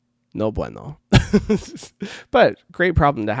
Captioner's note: laughs